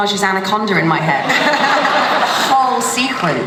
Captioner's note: laughter